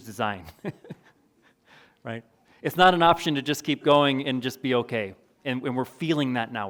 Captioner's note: chuckles